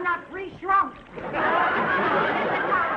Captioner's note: audience laughing